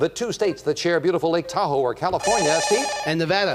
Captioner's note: beep